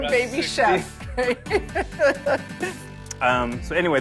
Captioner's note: chuckles